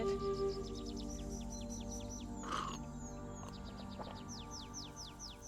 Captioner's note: gulping